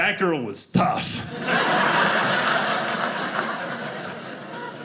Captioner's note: audience laughing